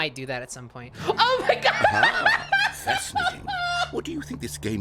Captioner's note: laughs